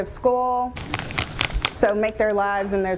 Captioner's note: tapping roller against tray